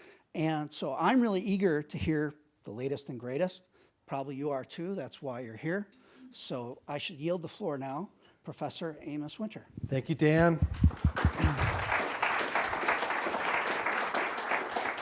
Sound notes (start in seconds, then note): 10.4 applause